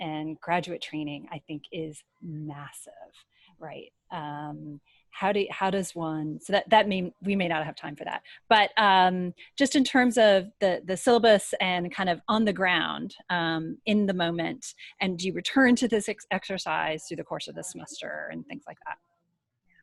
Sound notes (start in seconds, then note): none